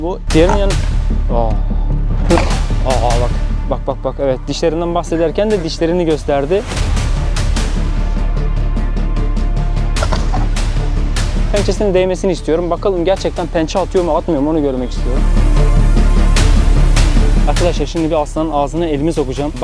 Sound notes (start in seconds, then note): 2.2 roaring sound; 6.8 tension music; 10.0 roaring sound; 15.3 tension music